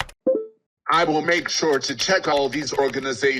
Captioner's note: typing noises